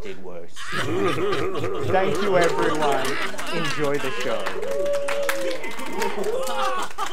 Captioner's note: AUDIENCE LAUGHS CHEERS and SCREAMS!